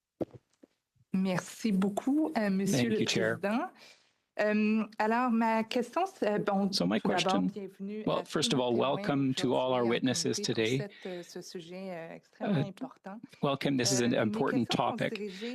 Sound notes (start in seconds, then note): 6.2 speaking French